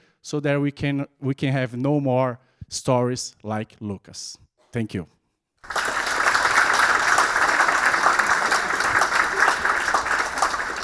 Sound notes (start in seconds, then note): 5.6 audience clapping